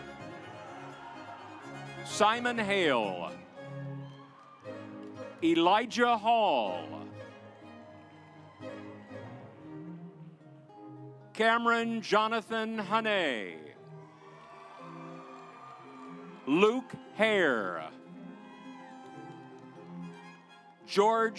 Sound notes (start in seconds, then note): 0.0 audience applauds; 7.3 stately music; 13.8 audience applauds; 18.2 stately music